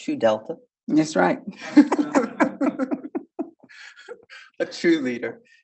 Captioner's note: speaker giggling